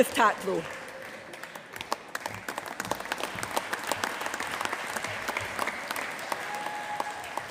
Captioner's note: applause